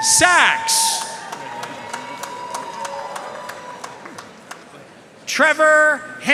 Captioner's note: audience cheering and applauding